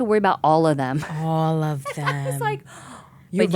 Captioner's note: laughing